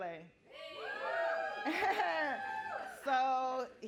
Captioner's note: audience cheering